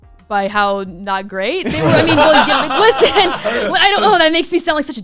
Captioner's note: laughs